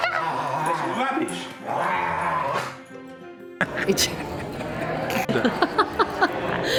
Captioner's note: lauging and dog sounds; laughing